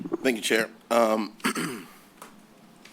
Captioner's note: clears throat